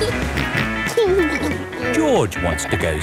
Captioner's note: snorts and giggles